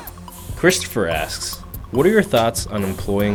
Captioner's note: voiceover